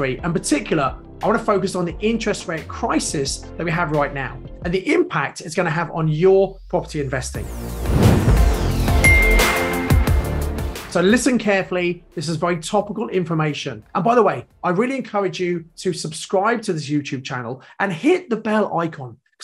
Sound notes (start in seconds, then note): 7.8 upbeat music; 9.0 logo dings